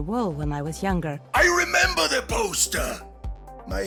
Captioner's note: voiceover